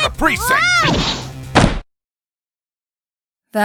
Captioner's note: door slams!